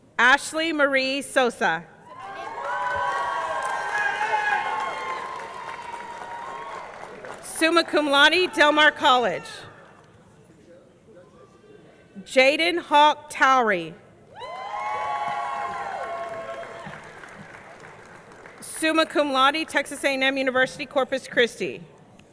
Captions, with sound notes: Ashley Marie Sosa. (audience cheering) (audience clapping) Summa Cum Laude, Del Mar College. Jaden Hawke Towery. (audience cheering) (audience clapping) Summa cum laude, Texas A&M University Corpus Christi.